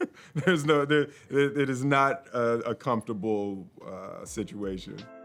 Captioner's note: laughs